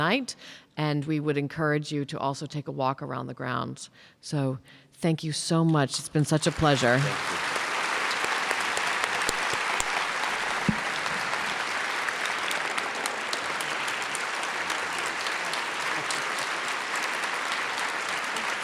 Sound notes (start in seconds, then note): 7.7 audience applause